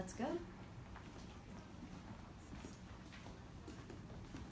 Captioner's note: footsteps